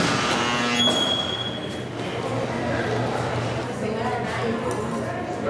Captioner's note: door slams, lock buzzes